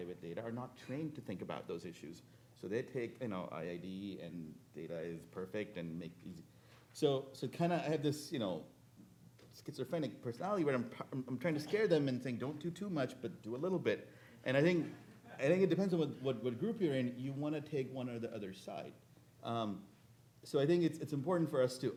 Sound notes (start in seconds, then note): 5.4 speaking faintly